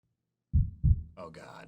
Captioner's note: heart beating